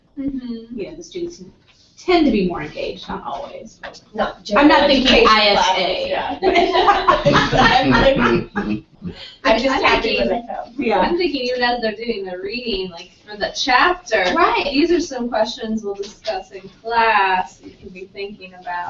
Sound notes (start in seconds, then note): 4.6 laugh